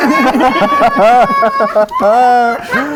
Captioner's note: laughing